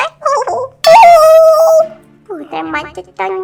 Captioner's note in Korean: 으아아악!